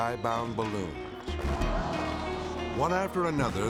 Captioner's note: onlookers gasping